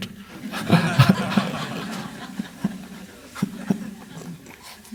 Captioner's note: laughs with crowd